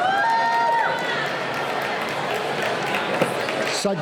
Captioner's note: cheering